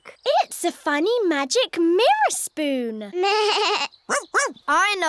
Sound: bleats

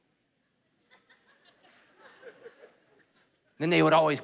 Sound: congregation laughing

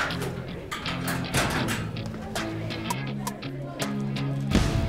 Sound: locker clatters

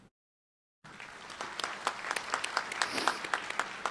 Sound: applause

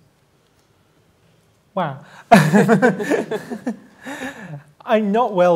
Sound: laughter; laughs

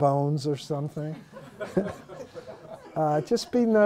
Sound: laughter

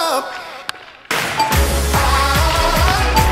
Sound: chime dings

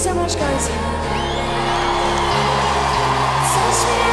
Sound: audience applauding

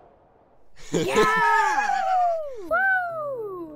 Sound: Dream Team cheering

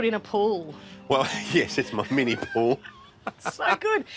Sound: laughs

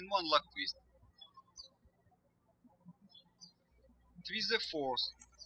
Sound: birds chirping

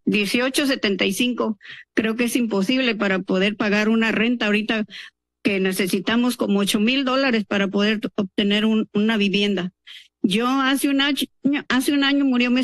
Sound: speaking in Spanish

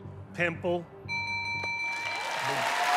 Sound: bell rings

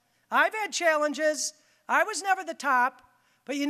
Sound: none

